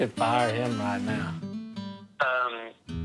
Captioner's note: on phone